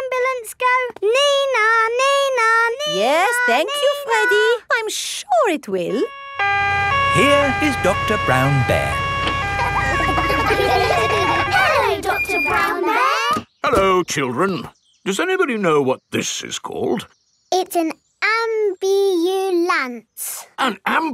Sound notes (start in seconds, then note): 6.9 siren wailing; 9.2 kids laughing